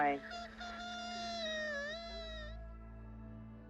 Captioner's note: cries